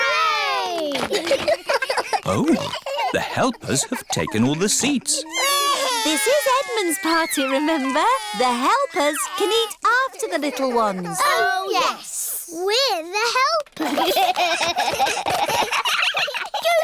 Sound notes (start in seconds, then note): 1.6 giggles; 5.1 babies crying; 13.7 all giggling